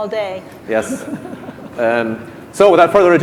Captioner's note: laughing